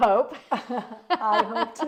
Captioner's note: laughs